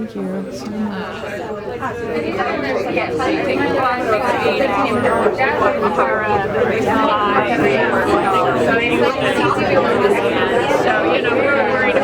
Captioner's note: audience chatting